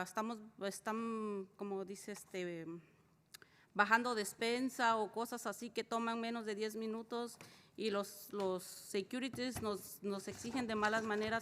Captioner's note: spanish